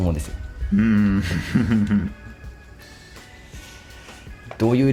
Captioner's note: laughs